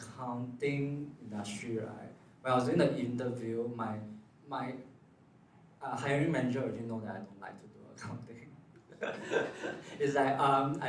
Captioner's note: laughs